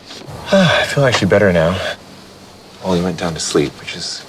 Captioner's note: sighs